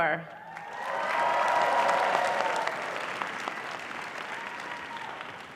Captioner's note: audience cheering and applause